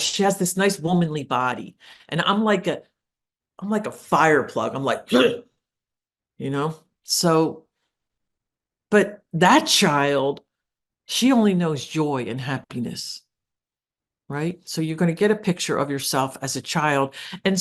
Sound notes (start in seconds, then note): 5.1 grunts